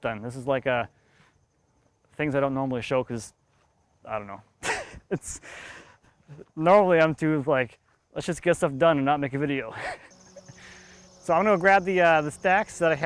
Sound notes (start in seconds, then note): 4.5 laughs